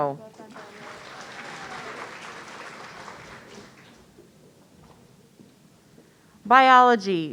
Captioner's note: audience applauding